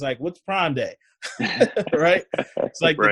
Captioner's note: laughs